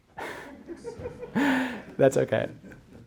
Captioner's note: audience laughing